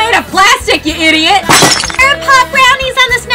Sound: glass shatters

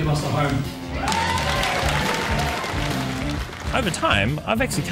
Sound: crowd applauding

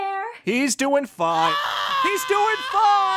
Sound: screaming endlessly

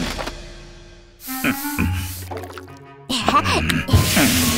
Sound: Master Bread grunts; torch hisses

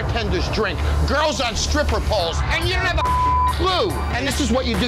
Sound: beep

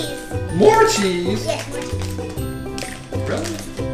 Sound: voiceover

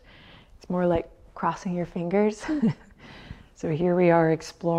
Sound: chuckles

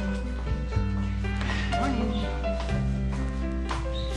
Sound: exhales

